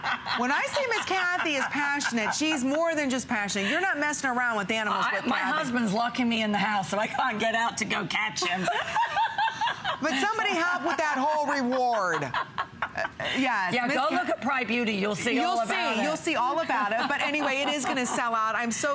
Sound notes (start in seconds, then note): 13.3 laughter